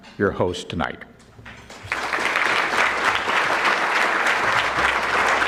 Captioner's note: audience clapping